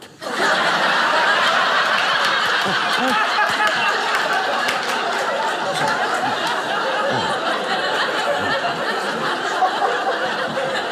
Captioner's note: audience laughing